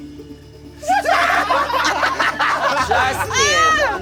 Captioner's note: laughter